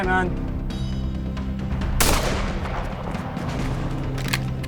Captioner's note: gun shot